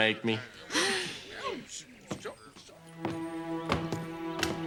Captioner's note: gasping; suspenseful music